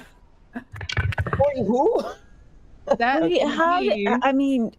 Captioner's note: dice rattling